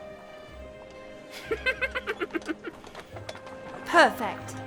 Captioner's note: giggles